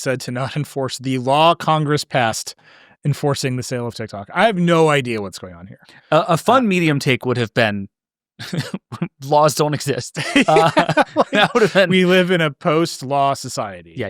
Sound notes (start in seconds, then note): 10.1 laughs